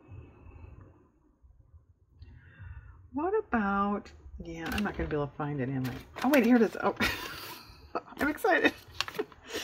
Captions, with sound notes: what about-- yeah i'm not going to be able to find it-- oh wait here it is (laughs) oh i'm excited